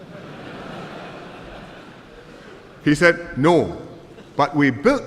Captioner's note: laughter